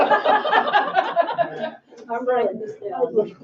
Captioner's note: all laugh